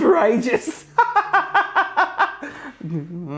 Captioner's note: laughs